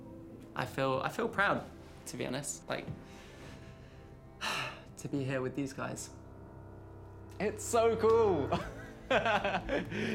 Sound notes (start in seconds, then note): 4.4 sighs; 9.0 chuckles